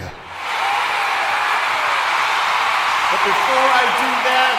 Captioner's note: ecstatic applause, cheers